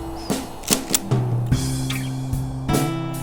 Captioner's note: click click